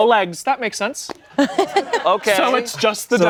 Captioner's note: everyone laughs